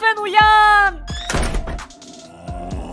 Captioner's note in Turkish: Kapı sesi